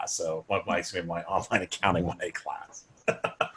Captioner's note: laughs